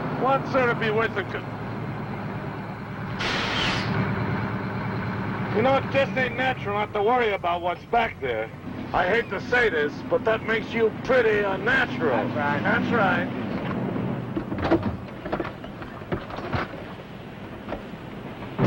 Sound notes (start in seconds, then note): 3.4 truck squeaks to a stop; 14.3 doors thudding open; 18.5 dramatic music